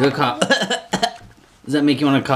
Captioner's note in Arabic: أدعي السعال